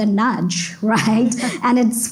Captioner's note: laughs